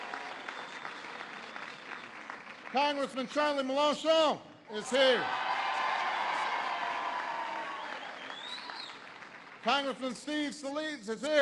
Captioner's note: applause